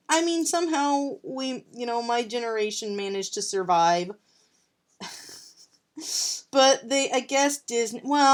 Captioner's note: laughs